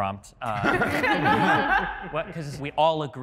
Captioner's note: participants laughing